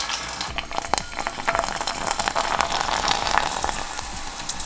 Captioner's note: chip rattling